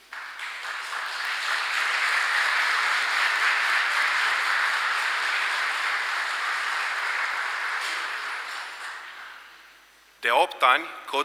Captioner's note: applause